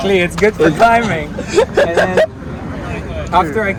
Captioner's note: laughs